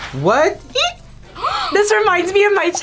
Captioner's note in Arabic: يلهث